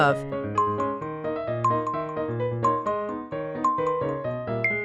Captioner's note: timer beeping